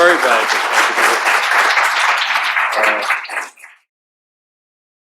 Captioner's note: applause